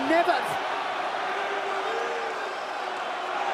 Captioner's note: crowd chatter